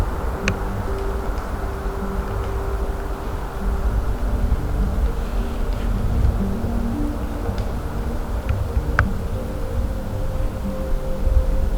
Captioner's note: wind noise, distant road traffic, music